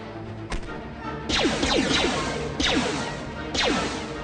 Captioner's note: dramatic music; gunshots